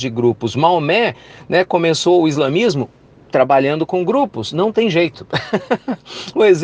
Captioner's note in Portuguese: risos